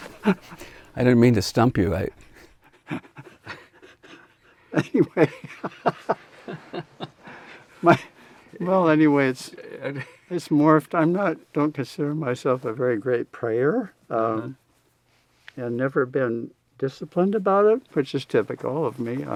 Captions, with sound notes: - I didn't mean to stump you. - Anyway, (laughs) my, well anyways, it's morphed. I'm not, don't discern myself as a very great pray-er. I've never been disciplined about it. Which is typical of me.